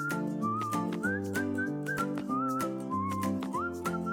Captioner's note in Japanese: 口笛